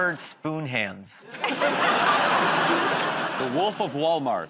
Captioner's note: laughter